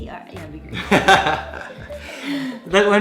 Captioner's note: laughs